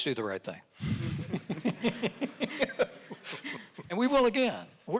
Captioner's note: audience laughing